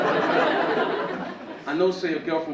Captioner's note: audience laughing